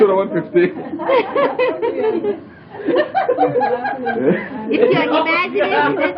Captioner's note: laughing; laughter